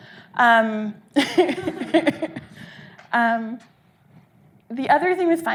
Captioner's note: audience laughing